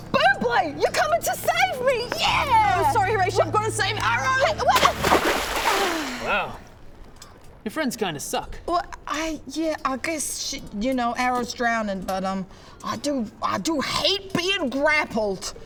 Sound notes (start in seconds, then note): 4.7 splash